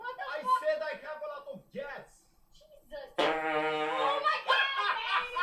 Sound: fart noise

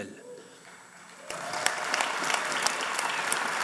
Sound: applause

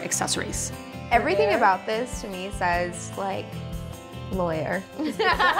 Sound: laughs

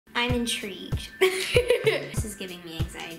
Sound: laughing

